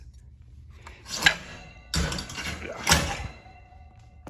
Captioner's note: metallic bumps